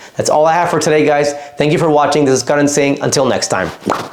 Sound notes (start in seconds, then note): 3.8 lips popping